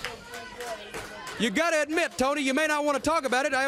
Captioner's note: crowd chatter